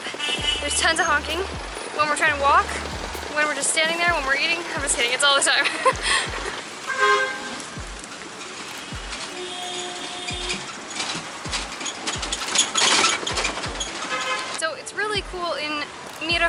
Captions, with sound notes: There are tons of honking, when we're trying to walk, when we're just standing there, when we're eating. I'm just kidding, it's all the time. (giggles) [Cars honking] So it's really cool in